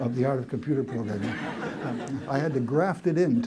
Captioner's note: laughter